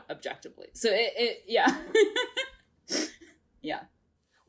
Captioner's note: laughs